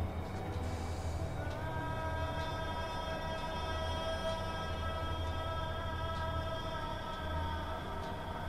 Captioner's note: sounds of desert winds and ambience of emptiness